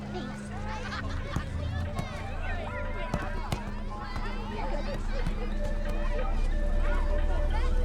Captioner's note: children chattering; football thudding